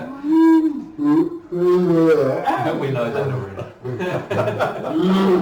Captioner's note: laughing